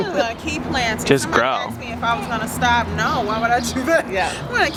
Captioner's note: laugh